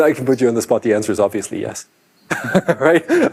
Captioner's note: laughs